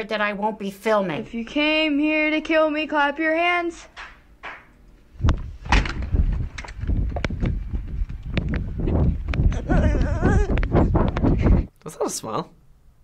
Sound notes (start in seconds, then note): 3.9 unknown person clapping; 9.5 boy whimpering